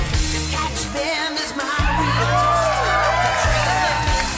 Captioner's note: crowd cheering